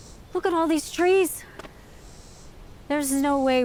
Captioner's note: hands thud